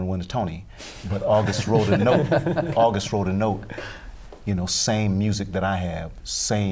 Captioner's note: laughter